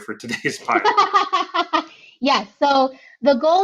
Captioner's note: laughing